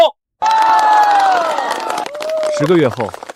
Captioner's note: cheers